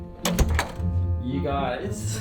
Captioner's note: door opening